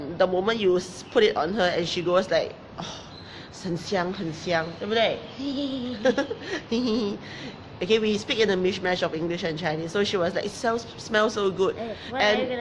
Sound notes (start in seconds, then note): 2.6 speaking in foreign language; 5.4 laughs